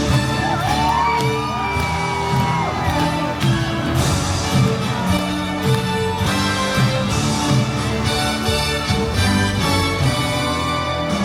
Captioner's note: screaming and cheering